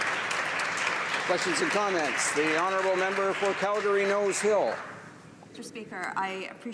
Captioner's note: some Applause